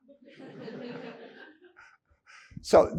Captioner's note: audience laughing